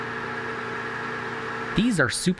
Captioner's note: projector sounds